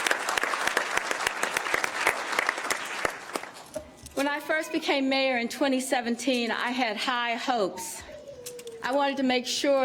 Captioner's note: cheers and applause